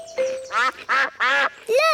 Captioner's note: quacking